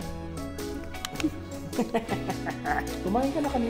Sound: laughs

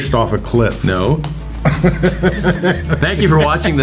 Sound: Gil laughing

